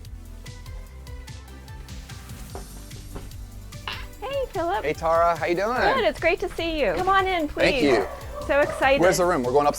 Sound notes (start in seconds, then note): 2.5 knocking